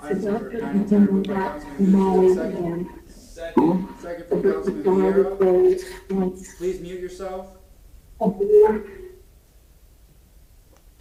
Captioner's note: interfering audio